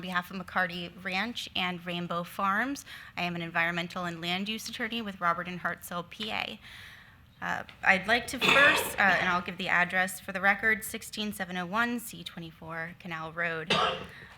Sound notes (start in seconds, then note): 8.2 attendee coughing; 13.7 attendee coughs